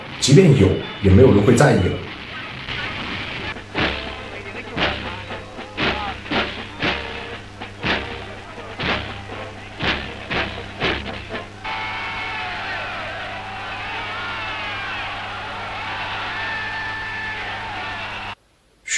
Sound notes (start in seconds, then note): 11.6 cheers